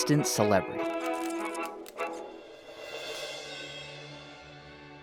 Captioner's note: camera shutter clicks; soft music